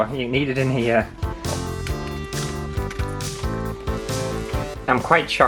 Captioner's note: dog Crunches